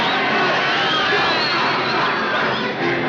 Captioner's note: crowd jeering and shouting